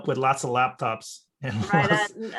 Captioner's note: laughs